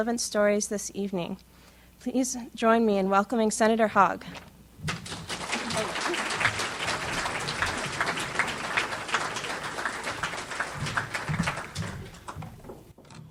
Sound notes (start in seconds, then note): 4.8 audience applauds